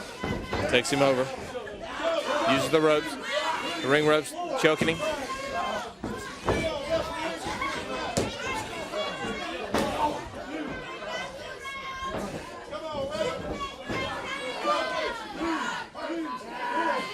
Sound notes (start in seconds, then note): 1.9 crowd chatter; 10.1 crowd chattering